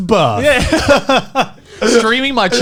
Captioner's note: laughing